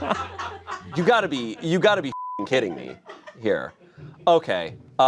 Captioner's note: everyone laughs; beep